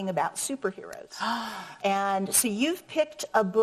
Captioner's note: gasps